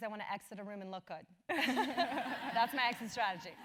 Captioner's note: laugh